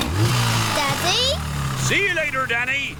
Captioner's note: engine starts